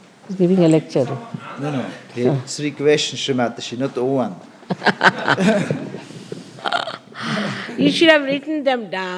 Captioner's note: shree mataji laughs